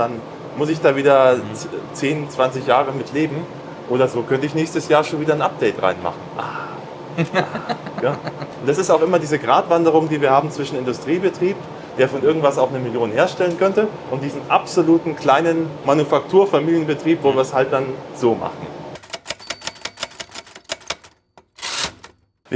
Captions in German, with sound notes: dann muss ich da wieder 10, 20 Jahre mit leben oder so. könnte ich nächstes Jahr schon wieder ein Update reinmachen. Ah [gelächter] ja, das ist auch immer diese Gradwanderung, die wir haben zwischen Industriebetrieb, der von irgendwas auch eine Million herstellen könnte und diesen absoluten kleinen Manufakturfilienbetrieb, wo wir es halt dann so machen.